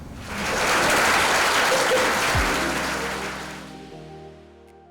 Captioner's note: audience applause